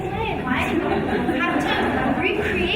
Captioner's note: audience laughing